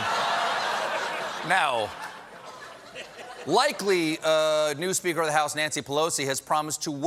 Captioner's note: laughter